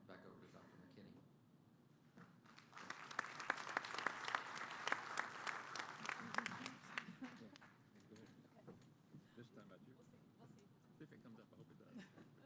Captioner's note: applause